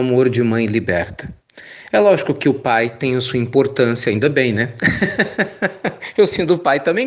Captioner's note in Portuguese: risos